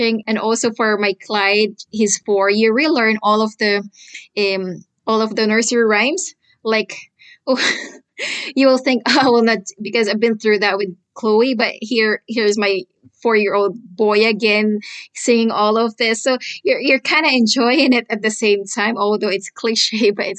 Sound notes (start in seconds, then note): 8.1 laughs